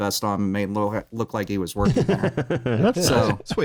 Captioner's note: laughs